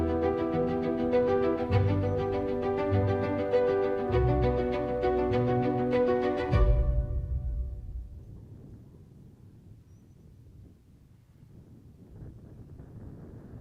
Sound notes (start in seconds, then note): 0.0 energetic instrumental music; 8.5 wind rushing